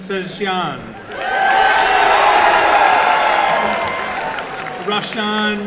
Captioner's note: applause and cheering